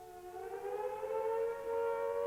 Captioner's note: siren